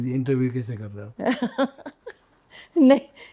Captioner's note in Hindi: हंसी